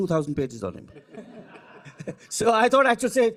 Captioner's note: audience chuckling